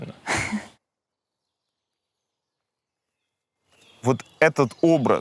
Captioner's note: silence